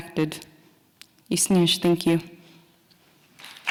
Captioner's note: speaking Nakoda language